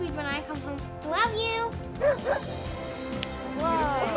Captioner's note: barks